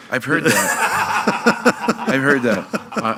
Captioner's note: laughing